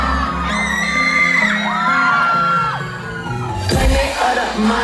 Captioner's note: screaming